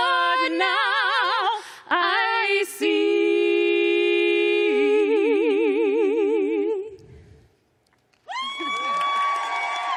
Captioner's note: cheers and applause